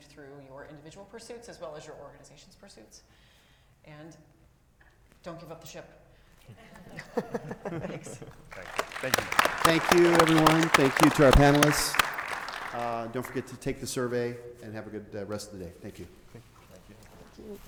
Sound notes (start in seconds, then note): 6.7 all chuckling; 8.2 crowd clapping